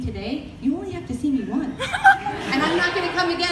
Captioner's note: audience laughter